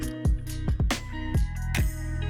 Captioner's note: music recedes, computer mouse clicks